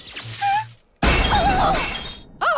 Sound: screaming

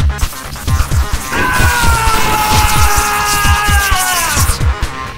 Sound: screams

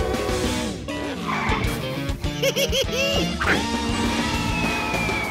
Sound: laughing

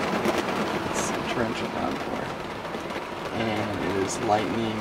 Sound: rain hitting the roof

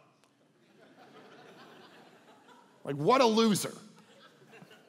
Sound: congregation laughing

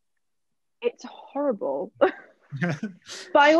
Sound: chuckles

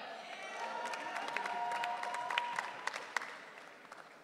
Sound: audience cheering

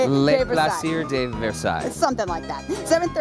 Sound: speaking foreign language

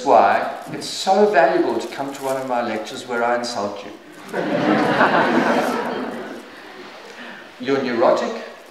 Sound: śmiech

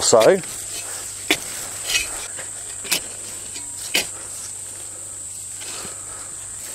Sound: spade shuffling; soil rasping

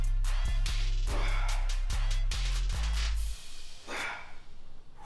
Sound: exhales

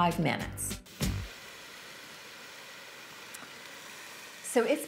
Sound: pot sizzling

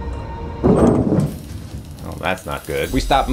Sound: elevator rumbles

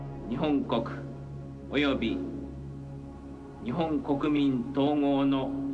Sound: Akihito speaking in foreign language

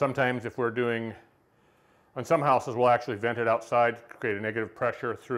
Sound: none

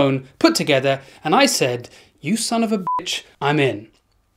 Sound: beep

